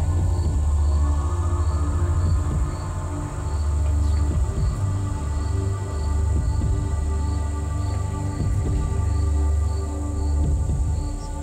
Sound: whispering

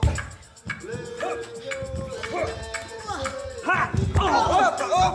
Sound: group grunting; group groaning

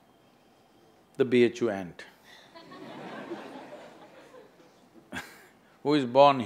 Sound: laughter

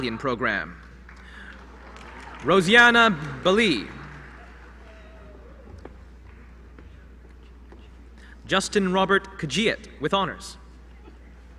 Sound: applause

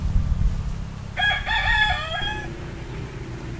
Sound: rooster crows

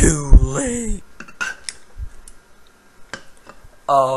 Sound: water Sound

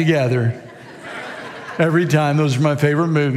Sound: congregation laughs

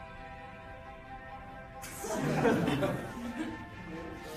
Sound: laughter

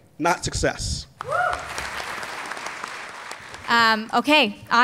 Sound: applause

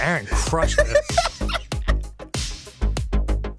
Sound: choking on his laughter

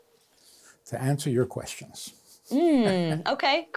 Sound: laughs

